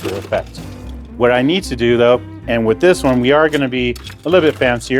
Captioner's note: ice clinks